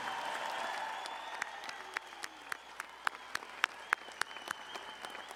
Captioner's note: audience cheering and applauding